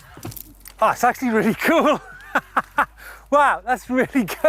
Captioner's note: laughter